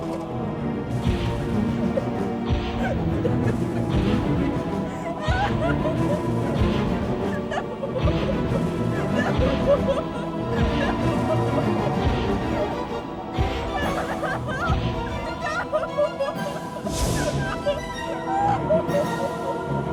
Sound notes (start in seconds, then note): 0.0 objects clattering; 0.2 dramatic music continues; 2.6 footsteps thudding; 2.7 Nancy crying; 10.6 crying; 14.3 dramatic music continues; 14.3 footsteps thudding; 15.9 dramatic music continues; 17.1 crying